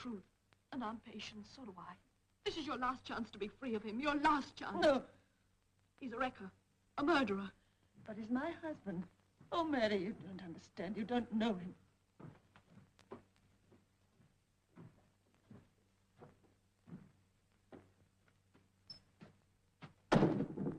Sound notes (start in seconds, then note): 10.2 footsteps